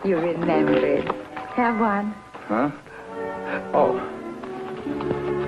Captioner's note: none